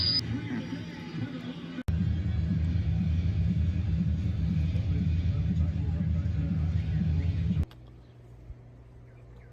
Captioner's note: TV continues playing